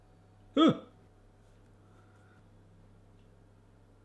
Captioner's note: grunts